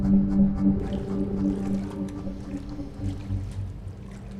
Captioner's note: water rustling